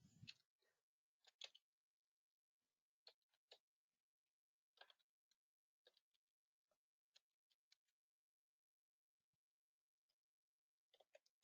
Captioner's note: 18 seconds pause